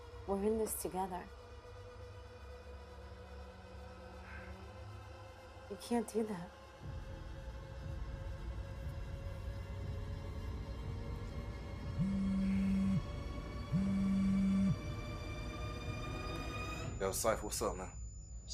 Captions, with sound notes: - We're in this together. (tense music) You can't do that. (tense music) (cellphone buzzes) - Yo, Cypher. What's up, man?